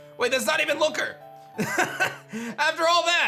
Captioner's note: laughs